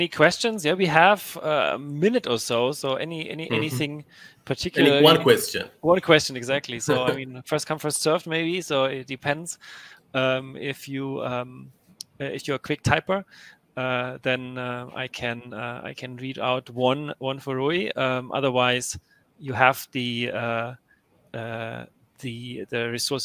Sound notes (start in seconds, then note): 6.8 laughs